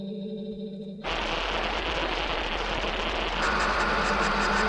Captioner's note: static buzzing